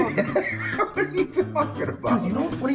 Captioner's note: laughs